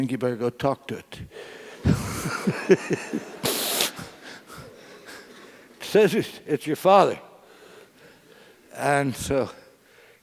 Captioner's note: laugh